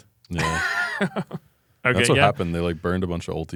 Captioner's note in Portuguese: risos